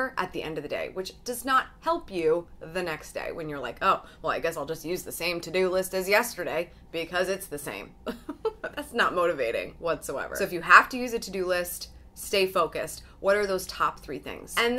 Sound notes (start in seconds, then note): 8.2 laughs